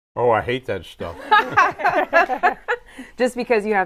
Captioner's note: all laughing